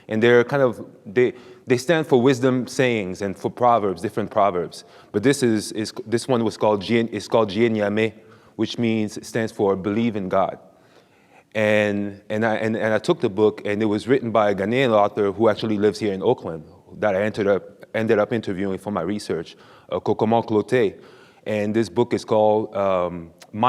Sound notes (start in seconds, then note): 7.0 speaks foreign language